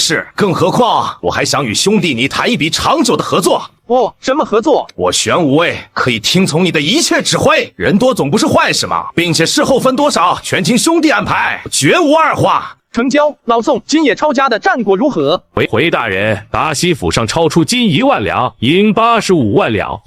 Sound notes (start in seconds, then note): none